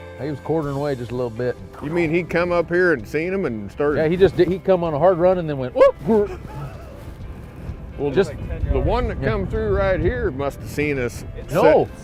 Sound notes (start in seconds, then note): 5.8 whoop